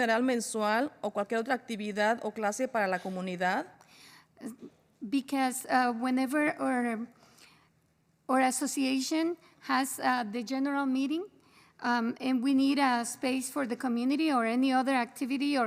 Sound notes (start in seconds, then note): 1.7 spanish